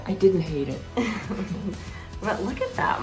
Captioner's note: both chuckling